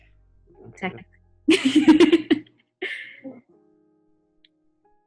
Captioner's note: laughs